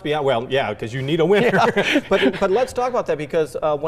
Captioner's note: laughing